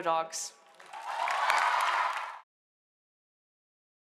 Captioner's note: cheers, applause